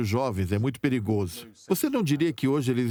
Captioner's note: voiceover